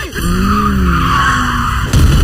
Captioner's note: screaming